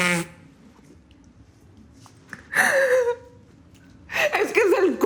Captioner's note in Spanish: Ruido al soplarse la nariz; Sollozos